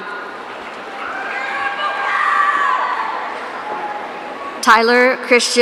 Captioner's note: audience cheering